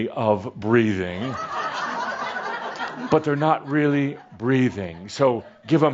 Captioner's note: laughter